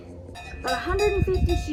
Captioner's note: bell clonking